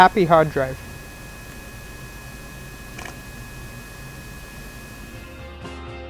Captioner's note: hard Drive Noises